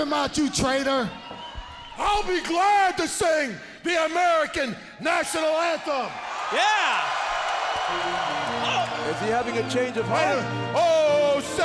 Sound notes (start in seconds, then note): 6.9 crowd cheering